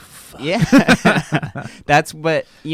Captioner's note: everyone laughs